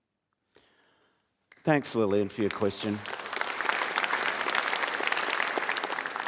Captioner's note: applause